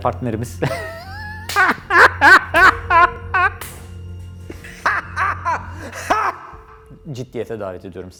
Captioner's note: laughs